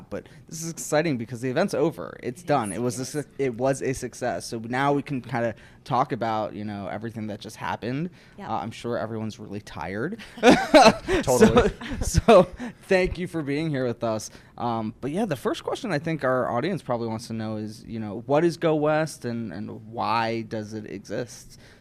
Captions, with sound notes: But this is exciting because the event's over, it's done, it was a success, so now we can kinda talk about everything that just happened. - Yeah. - I'm sure everyone's really tired. (laughs) So, thank you for being here with us. But yeah, the first question I think our audience probably wants to know is what is Go West and why does it exist?